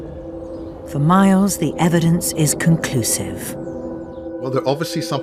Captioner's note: voiceover